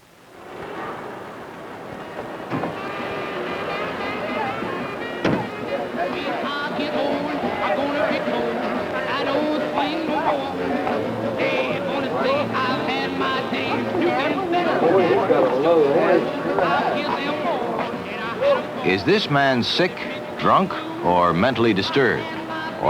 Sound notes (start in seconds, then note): 1.1 street traffic; 5.2 car door slams